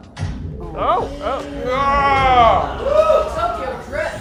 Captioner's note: groans